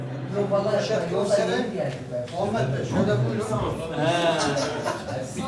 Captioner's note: indistinct chatter